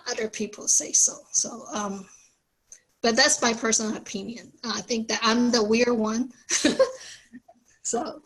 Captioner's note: laughs